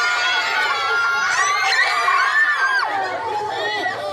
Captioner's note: screaming